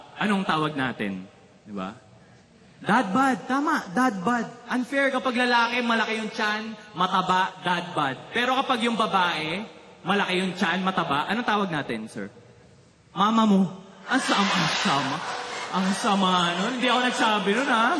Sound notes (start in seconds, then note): 14.9 laughter